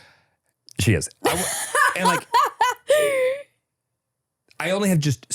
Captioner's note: laughs